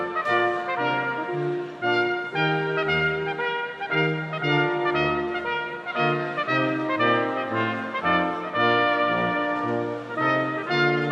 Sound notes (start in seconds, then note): none